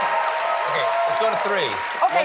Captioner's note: applause